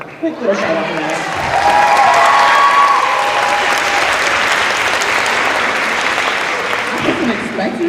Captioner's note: cheers